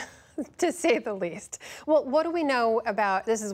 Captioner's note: laughter